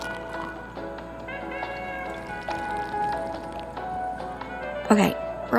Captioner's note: liquid pouring; drink being sipped